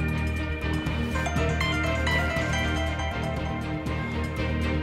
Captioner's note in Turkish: Telefon çalıyor